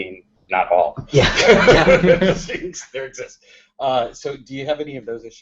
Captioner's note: laughter